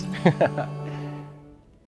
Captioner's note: laughs